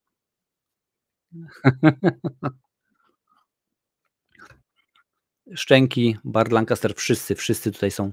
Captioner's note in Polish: śmiech